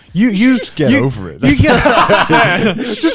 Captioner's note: Garnt laughing